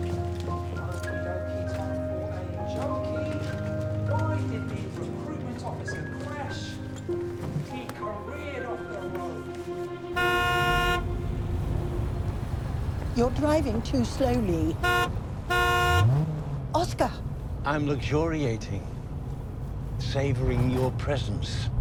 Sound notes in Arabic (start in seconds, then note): 10.1 بوق السيارة; 15.4 صوت بوق السيارة; 20.8 روبين تسخر